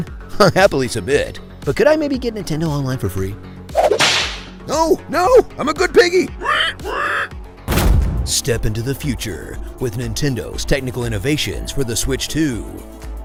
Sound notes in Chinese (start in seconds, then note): 3.7 鞭子抽打的聲音; 6.4 豬叫聲